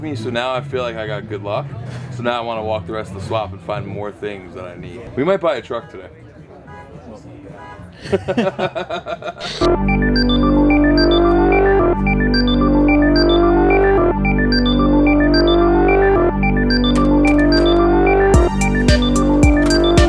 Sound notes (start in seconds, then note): 6.8 car horn honking; 8.0 laughing; 9.8 techno music